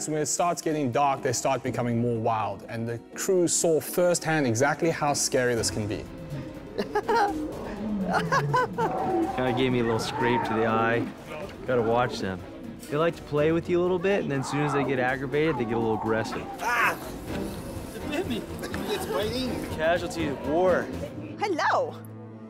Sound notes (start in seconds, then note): 6.2 nervous laughter